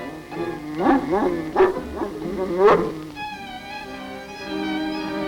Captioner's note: Devil barks